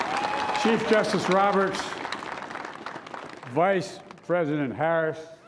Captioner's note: cheers and applause; applause